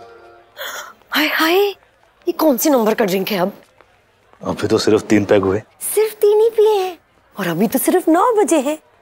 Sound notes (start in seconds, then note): 0.6 gasps